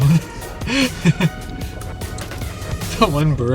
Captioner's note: laughter